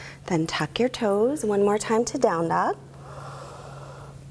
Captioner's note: exhaling